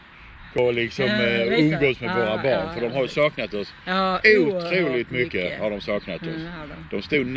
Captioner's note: haha